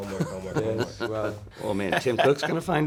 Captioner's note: laughs